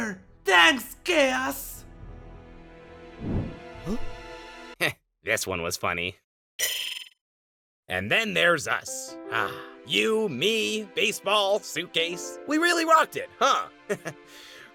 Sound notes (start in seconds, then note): 3.2 woosh